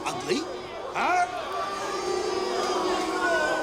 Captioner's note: booing